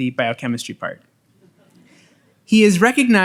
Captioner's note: audience laughs